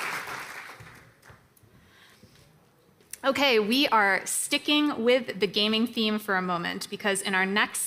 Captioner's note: applause